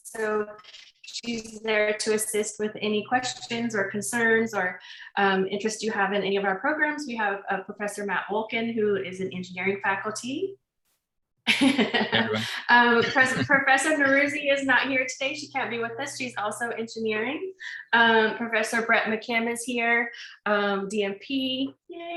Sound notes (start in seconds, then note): 11.4 laughs